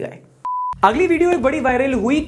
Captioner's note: beep